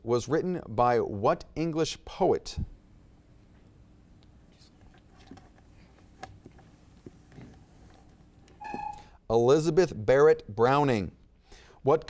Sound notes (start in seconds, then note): 8.6 timer beeps